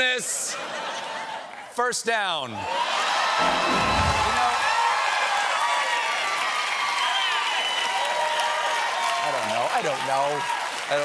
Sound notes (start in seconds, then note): 2.5 cheers and applause